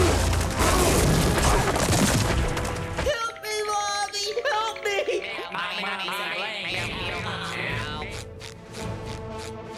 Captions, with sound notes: Help me, mommy! Help me! [chattering]